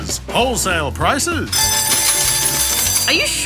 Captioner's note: bell rings